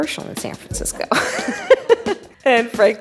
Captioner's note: laughing